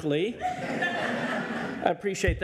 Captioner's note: audience laughs